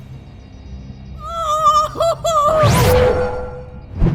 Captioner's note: silver spoon screams